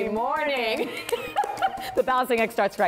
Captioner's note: laughter